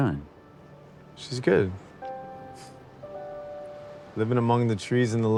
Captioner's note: chuckles